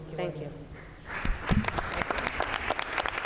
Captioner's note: applause